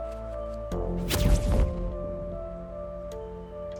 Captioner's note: zapping